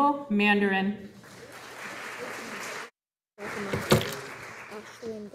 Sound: audience applauding

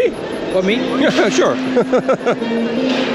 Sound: laughs

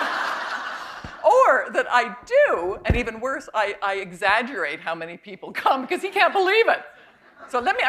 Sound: laughter

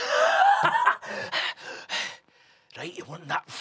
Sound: laughing and panting

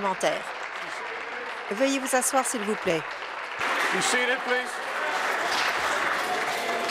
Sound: applause

